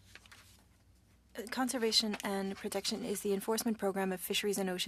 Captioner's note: speaking French